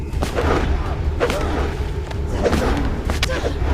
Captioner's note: whooshing